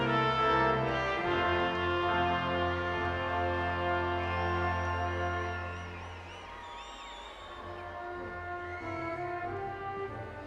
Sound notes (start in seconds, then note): 3.1 audience whistling